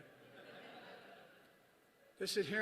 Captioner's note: laughter